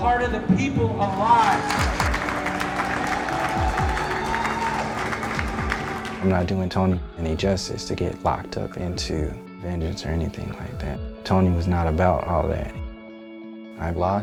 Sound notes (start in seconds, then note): 2.6 applause and cheering